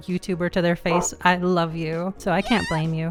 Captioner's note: bark